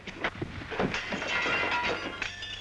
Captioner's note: window shattering